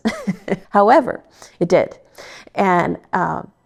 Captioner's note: laughs